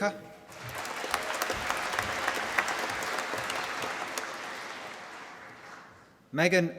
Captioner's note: applause